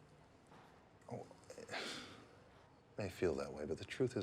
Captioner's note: sighs